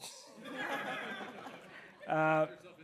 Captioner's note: laughter